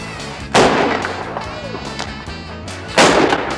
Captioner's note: shots